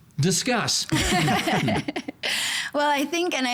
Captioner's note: all laughing